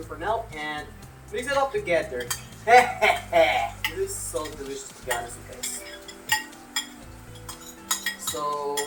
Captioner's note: laughs